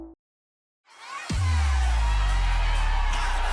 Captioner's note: crowd cheering